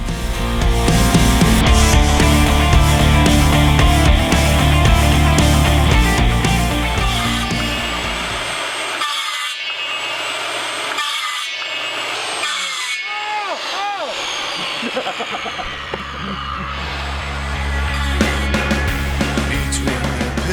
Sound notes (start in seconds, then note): 8.3 power saw; 16.3 laughs